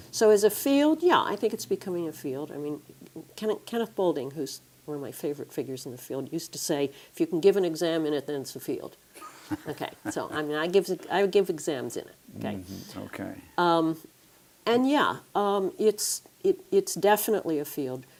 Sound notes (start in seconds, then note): 9.2 laugh